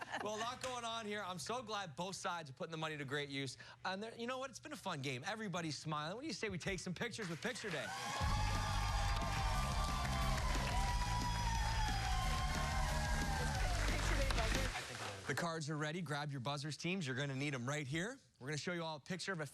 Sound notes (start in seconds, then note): 11.7 cheers and applause